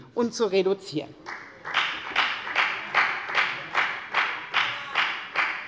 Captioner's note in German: Beifall bei der FDP